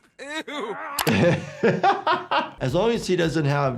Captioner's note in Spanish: Deadpool riendo; doctor riendo